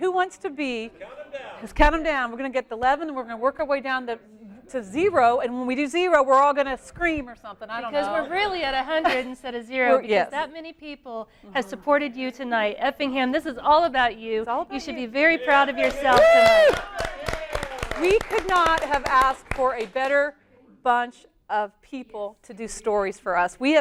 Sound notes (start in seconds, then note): 15.6 applause